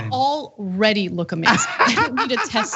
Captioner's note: laugh